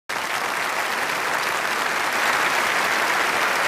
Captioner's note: applause